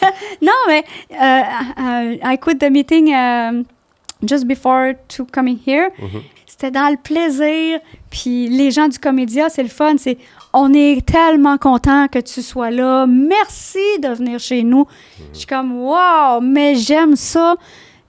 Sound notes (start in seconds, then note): 6.4 in french